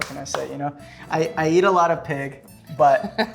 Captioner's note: Gwyneth laughs